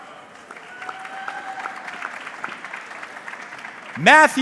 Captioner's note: audience clapping